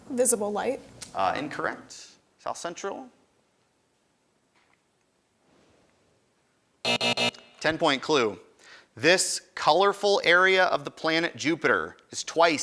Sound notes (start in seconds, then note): 6.8 end time buzzer rings